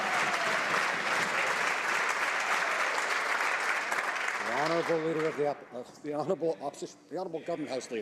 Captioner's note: some Applause